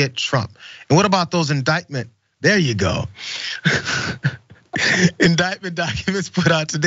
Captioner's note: laugh